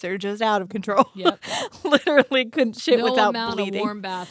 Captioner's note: laughs